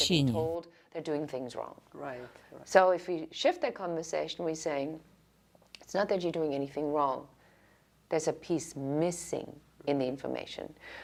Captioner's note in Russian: Разговаривают на английском